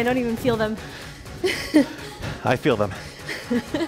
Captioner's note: laughs